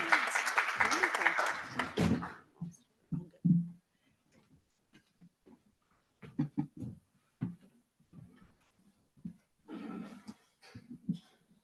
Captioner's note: extended silence